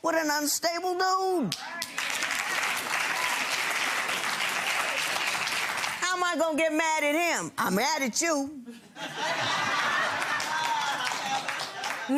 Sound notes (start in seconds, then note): 3.1 gallery claps